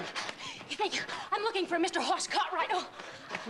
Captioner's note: breathless